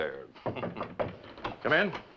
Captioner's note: knock on door